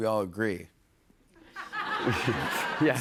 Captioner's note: laughter